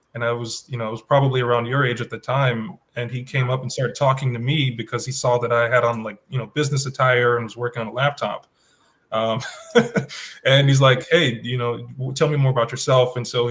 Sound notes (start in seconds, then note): 9.2 laughs